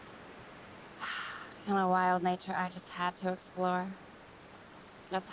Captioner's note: sighs